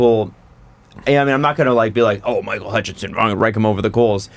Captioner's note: aggressively